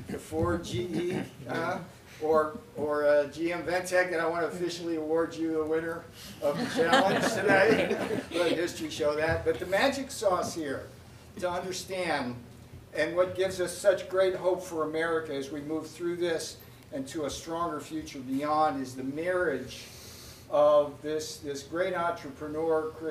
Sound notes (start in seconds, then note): 8.6 laughter